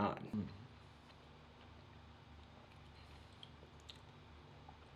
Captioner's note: chewing